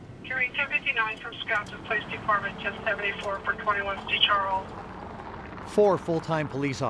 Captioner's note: tires scratch on pavement